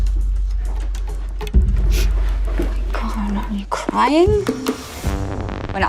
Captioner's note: sniffles